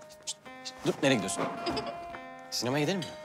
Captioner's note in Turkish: Pelin güler